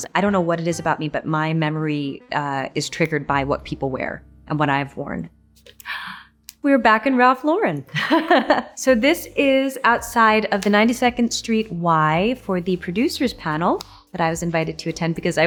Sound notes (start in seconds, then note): 5.8 gasps; 7.9 chuckles